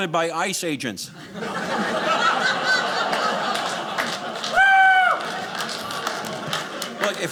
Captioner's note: audience laughing